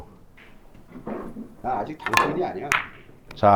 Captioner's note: gritting his teeth